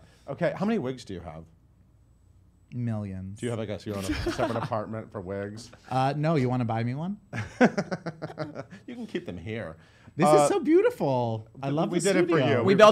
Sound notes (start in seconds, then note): 7.3 laughter